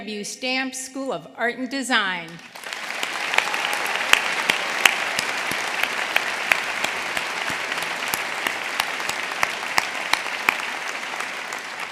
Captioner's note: applause